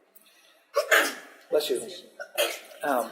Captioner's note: sneezing